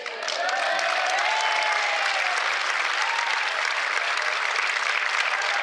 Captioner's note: cheers